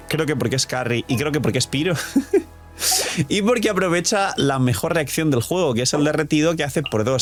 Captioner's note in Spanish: risas